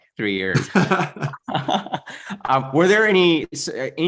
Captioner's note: laughs